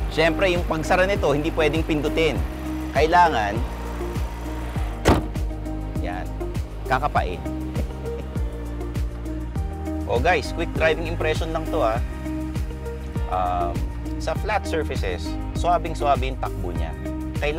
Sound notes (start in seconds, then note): 7.8 laughs